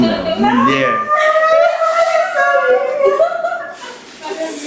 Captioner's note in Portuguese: gritos de comemoração